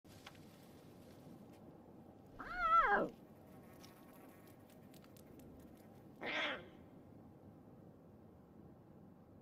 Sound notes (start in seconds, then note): 2.5 roars weakly; 6.2 roars kittenishly